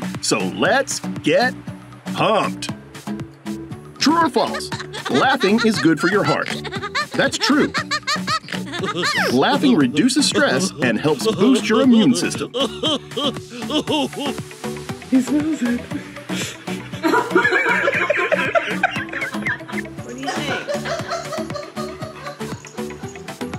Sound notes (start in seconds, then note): 7.6 girl laughs and snorts; 12.5 heart laughing; 16.9 woman laughs; 20.6 dog owners laugh